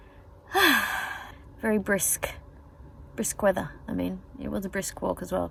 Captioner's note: sighs happily